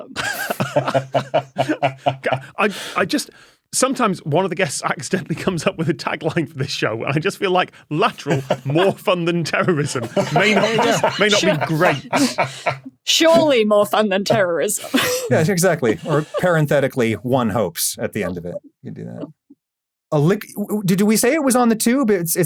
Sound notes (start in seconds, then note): 0.0 group chuckling; 11.6 guests laughing